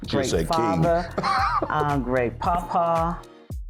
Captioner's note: laughing